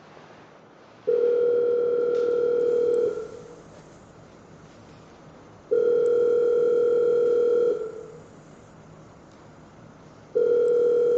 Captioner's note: phone ringing